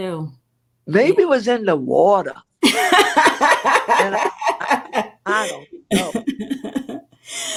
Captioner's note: laughter